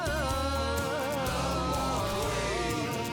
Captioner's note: crowd